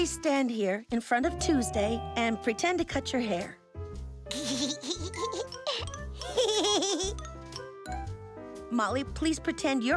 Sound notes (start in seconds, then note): 4.3 giggling